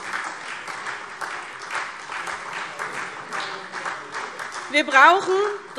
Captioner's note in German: Beifall SPD